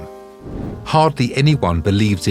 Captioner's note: air whooshing